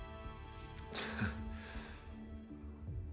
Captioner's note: chuckles